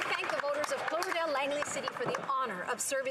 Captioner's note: some Applause